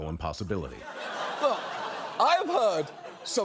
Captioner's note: audience laughing